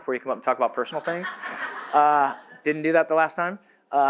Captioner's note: audience laughs